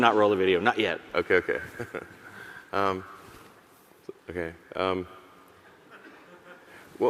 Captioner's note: chuckles